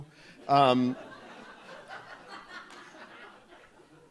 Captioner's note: audience laughs